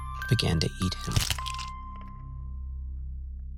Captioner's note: cruntch and bloody squish